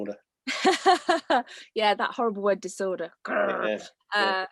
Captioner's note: laughs